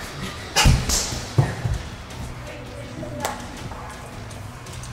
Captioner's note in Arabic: خطى صاخبة